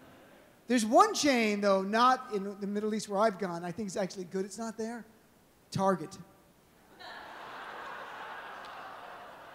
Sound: laughter

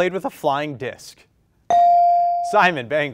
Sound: bell rings

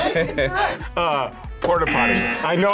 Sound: both laugh; buzzer

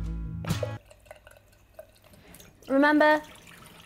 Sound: water running

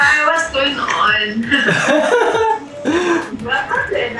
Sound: laughs

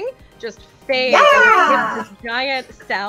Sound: through a voice modulator

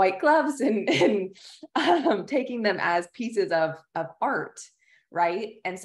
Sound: laughter

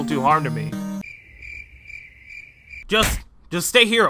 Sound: crickets chirping

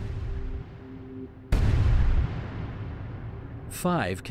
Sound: booming

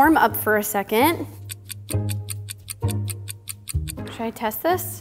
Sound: clock ticking

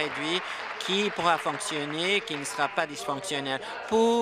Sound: applause

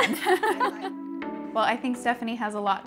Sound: laughs

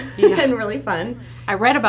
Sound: laughs

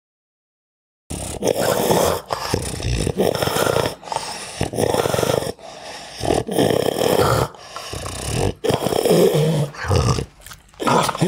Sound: pug dog grunts, breaths and snarls

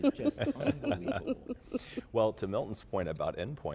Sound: laughter

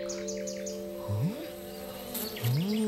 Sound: buzz

